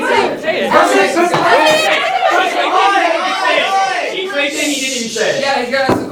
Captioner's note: yelling, I wanna cry